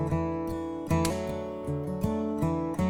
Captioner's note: light switch flicks